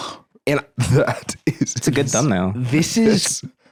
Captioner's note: laughing